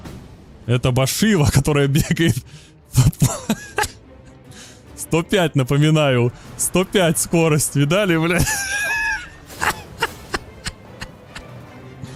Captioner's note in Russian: смех